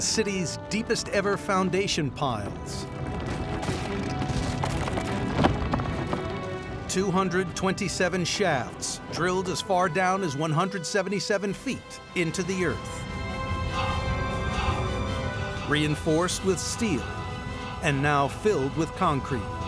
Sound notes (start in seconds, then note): 2.5 rumbling